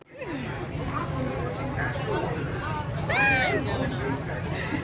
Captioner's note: laughs